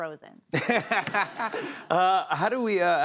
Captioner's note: laughter